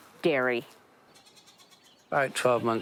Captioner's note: goats bleating